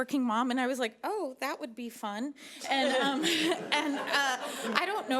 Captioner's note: laughing